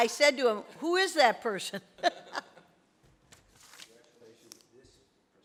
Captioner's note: laughs